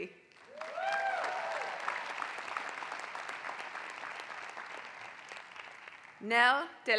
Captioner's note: applause